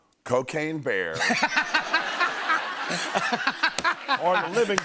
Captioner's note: laughter